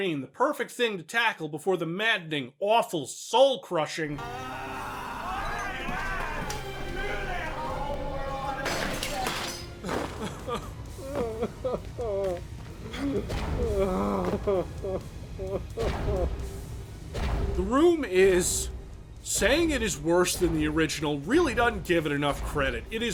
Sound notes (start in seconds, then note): 4.2 angry Tommy Wiseau noises; 11.0 crying noises